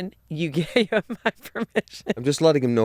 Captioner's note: laughs